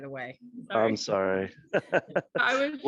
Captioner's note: chuckles